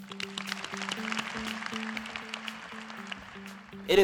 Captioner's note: applause